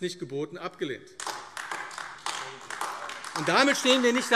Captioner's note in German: Beifall AfD